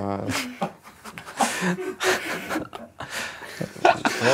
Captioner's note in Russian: смеются